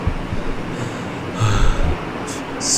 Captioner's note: cosmic sighs